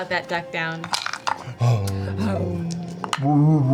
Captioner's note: Trinket groans